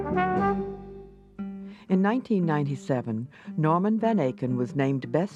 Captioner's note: voiceover